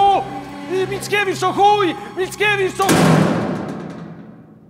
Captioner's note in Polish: trzask